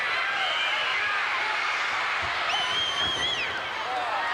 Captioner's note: crowd cheers